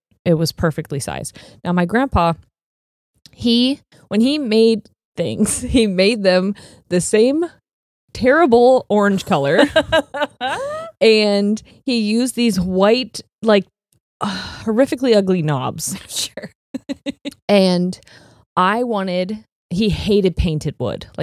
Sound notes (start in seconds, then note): 9.5 laughs; 16.7 laughs